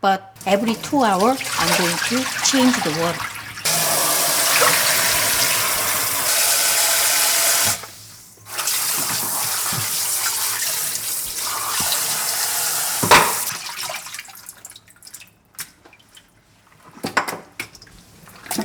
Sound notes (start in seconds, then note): 4.1 water pouring; 14.0 water dripping